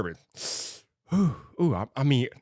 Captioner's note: inhales sharply